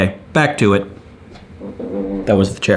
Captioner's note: chair squeaks lightly